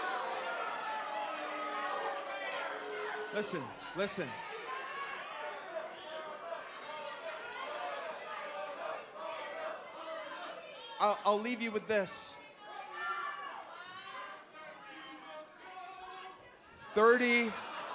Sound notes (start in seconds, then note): 0.0 crowd chatter; 5.8 crowd chatter